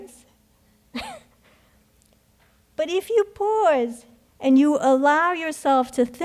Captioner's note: chuckles